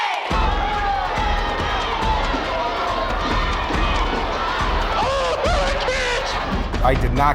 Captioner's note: crowd cheering